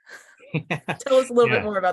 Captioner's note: laughs